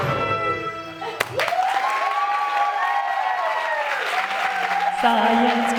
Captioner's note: applause